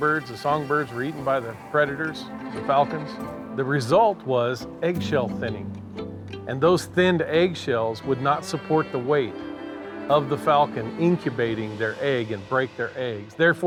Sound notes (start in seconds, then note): none